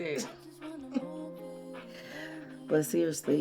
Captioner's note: June laughs